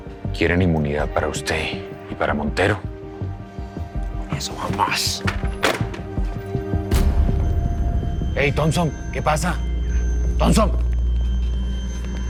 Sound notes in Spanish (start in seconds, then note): 5.3 Ruido al colgar